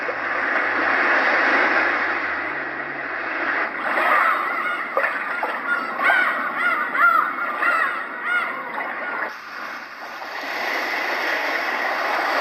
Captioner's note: various ocean sounds